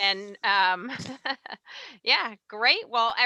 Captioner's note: laughs